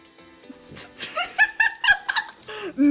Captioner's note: laughter